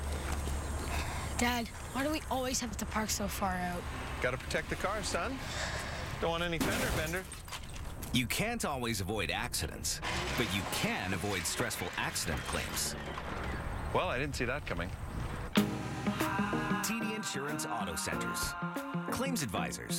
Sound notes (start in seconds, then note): 6.6 SFX: crash